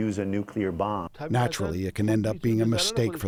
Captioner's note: through translator